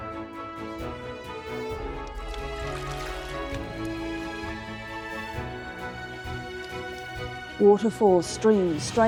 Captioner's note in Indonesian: riak air